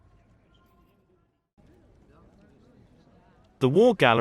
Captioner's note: people chattering